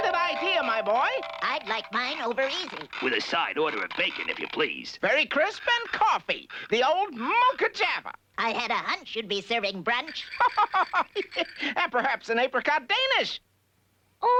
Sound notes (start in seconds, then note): 10.2 chuckling